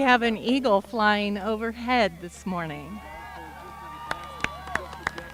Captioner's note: applause